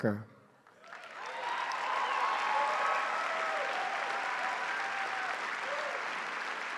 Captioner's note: applause